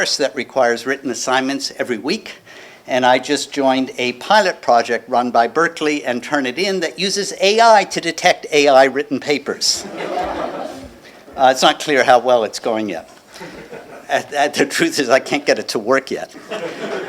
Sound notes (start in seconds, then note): 9.8 laughter